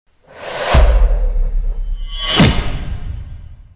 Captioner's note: logo whooshes